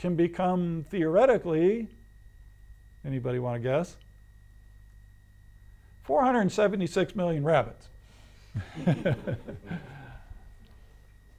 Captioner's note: laughs